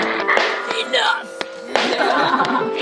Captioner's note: laughs